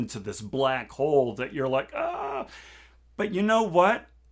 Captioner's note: moans